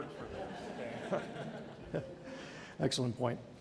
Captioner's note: audience laughing